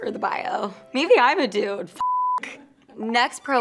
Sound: beeps

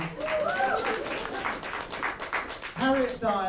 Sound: applause

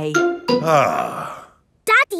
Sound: sighs

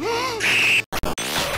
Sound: scream

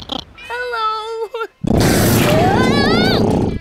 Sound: roaring, screaming

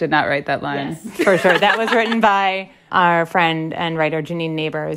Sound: laughter

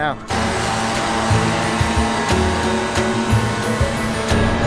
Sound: blower buzzes

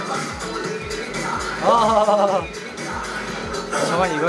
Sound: haha

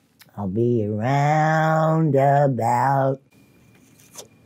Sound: singing; sucks loudly

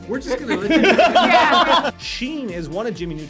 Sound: laughing

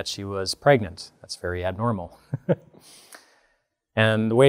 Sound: laughs

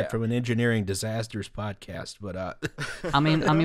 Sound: laughter

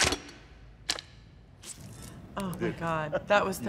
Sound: crossbow clanks; crossbow clinks; Miles blood spurts

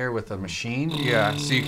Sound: machine-like buzzing

